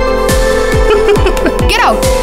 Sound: laughs

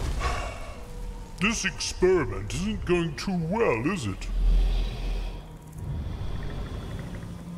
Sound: sigh

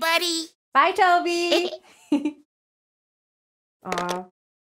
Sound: giggles

